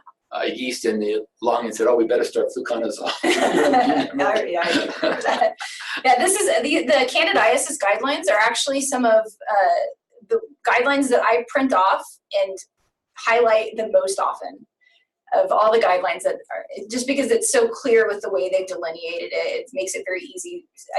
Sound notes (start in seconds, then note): 2.5 laughs